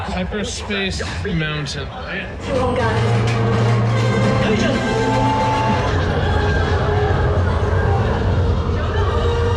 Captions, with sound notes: Hyperspace Mountain. (whirring) (exciting music playing)